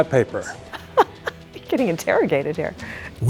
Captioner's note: laughing